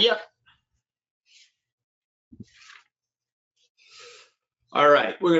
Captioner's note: pages rustling